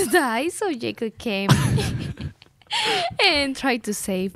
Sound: laughs

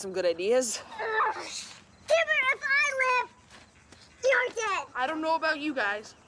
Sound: high Voice

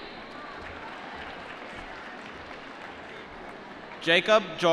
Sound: applause

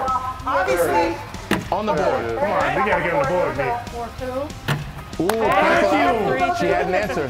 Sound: applause

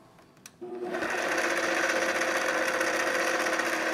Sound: mixer roaring

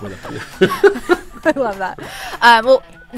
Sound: all chuckling

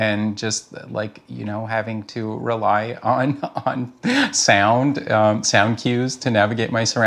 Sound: chuckles

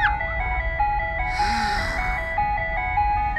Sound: sigh

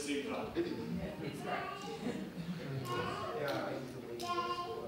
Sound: crowd chatting

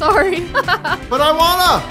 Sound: laughs

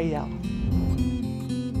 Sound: air swishes

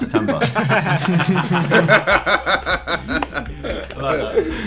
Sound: everyone laughing

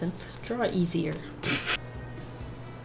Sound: laughs

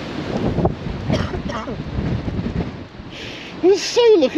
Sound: woman coughs

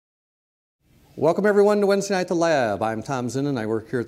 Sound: voiceover

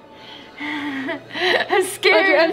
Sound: nervous laughing

